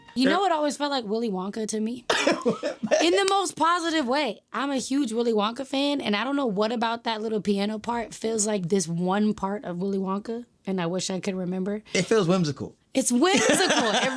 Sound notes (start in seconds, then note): 2.1 laughing; 13.3 laughing